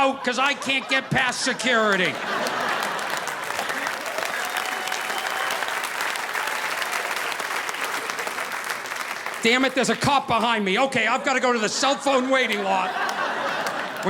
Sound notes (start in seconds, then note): 2.4 audience applauding; 2.4 audience laughing